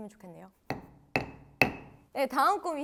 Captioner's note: bang bang bang